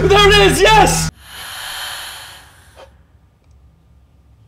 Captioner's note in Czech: hlasy zmizí, nádech